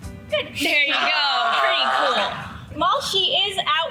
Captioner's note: sea lion barking